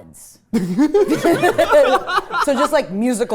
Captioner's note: everyone laughing